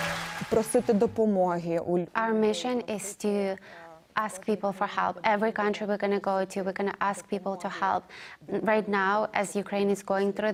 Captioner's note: applause